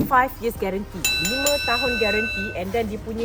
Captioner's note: bell sound